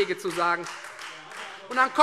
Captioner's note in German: Beifall Freie Demokraten